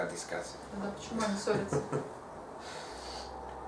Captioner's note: hahaha